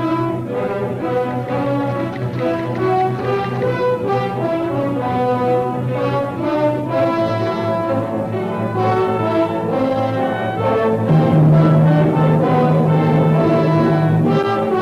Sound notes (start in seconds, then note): 1.3 typewriter clacking; 10.8 plane engines roaring